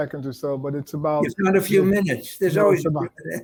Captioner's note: laughing